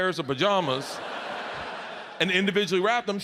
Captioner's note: audience laughs